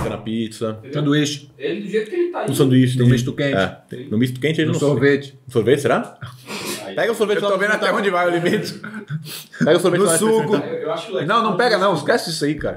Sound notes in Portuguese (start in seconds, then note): 7.6 risos